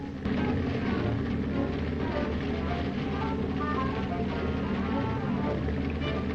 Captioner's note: soft tense music; submarine rumbling